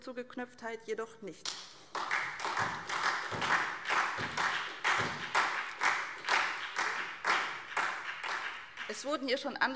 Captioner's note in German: Beifall SPD